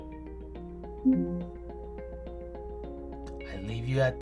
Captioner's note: quiet beep